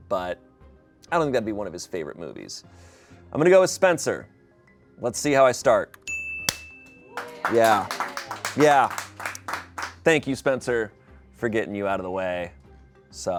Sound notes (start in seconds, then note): 6.5 bell dings; 6.9 people applaud